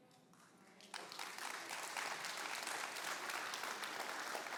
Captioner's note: applause